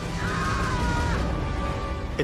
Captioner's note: screaming